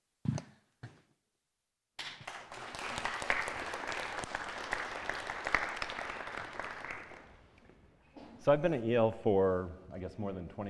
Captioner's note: applause